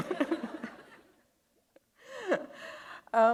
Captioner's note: laughter